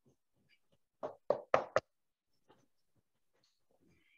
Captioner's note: MORGAN taps book